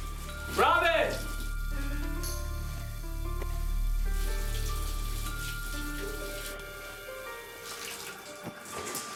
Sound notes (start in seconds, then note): 4.6 water splashing